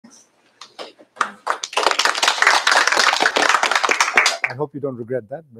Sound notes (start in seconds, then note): 1.1 applause